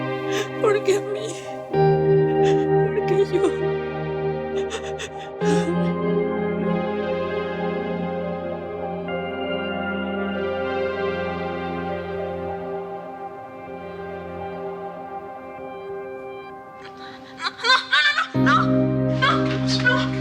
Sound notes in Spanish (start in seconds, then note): 4.5 Sollozos